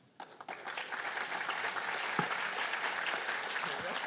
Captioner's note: applause